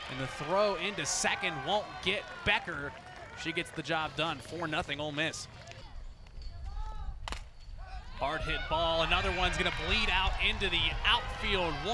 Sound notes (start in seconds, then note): 7.2 bat hits ball